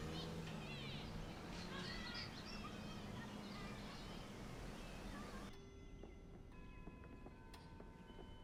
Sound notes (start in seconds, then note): 4.8 clock chiming